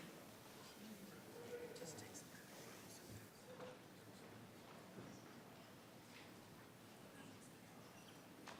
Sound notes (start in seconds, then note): 2.8 whispering